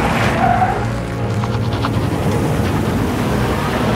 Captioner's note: tires screeching